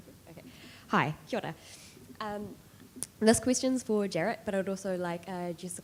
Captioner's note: speaking foreign language